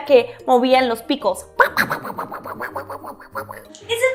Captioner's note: squawking